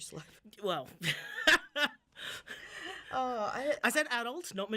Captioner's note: laughing loudly